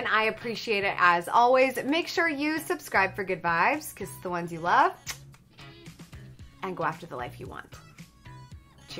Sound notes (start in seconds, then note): 5.0 smacks lips